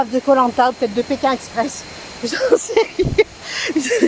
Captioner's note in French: Rires